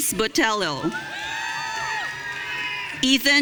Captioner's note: audience cheering